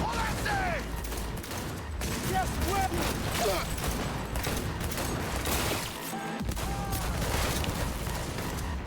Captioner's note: gunfire